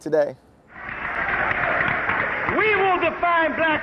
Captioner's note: audience cheering